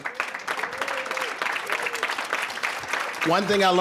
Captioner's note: applause